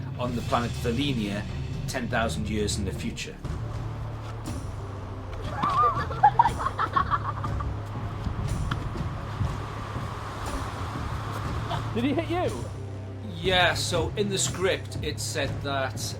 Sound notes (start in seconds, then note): 4.3 intense music; 5.4 children laughing